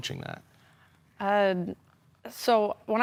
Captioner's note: soft breathing